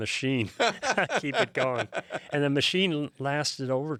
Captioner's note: laughing